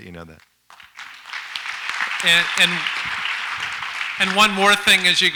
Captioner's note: audience applauds